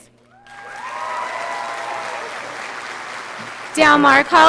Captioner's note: audience applauding